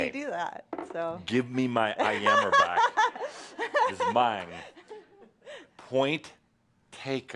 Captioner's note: laughter